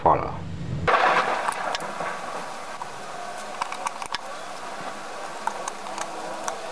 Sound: clap

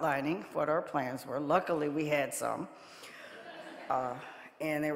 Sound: audience laughing

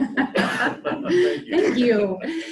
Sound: laughter

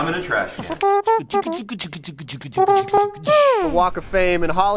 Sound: beatboxing

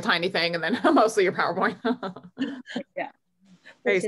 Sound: chuckles

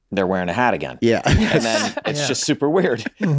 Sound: laughs

